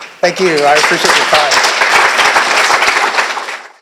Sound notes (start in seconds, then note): 1.8 applause